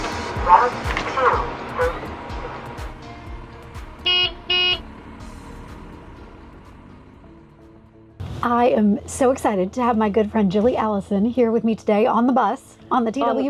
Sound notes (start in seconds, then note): 3.9 bus honking noise